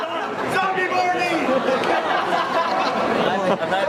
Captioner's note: laughter